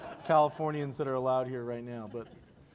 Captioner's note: laughter